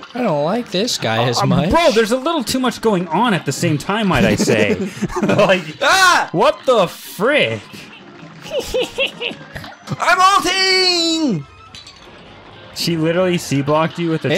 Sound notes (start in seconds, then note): 4.1 laughs; 8.4 imitates Hilda's laugh; 10.3 yelling